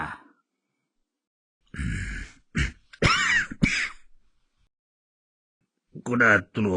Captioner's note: cough